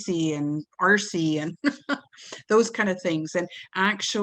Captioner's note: giggles